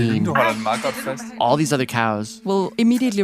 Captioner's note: speaking Danish